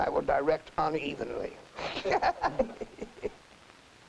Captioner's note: laughing